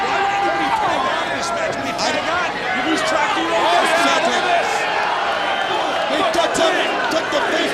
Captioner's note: audience shouting; commentators chattering